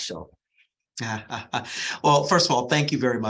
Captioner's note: laughs